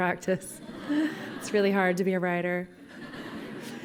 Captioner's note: laughter